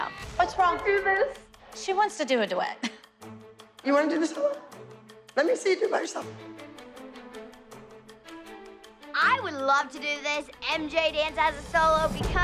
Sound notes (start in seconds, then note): 3.1 chuckles; 6.8 tense music playing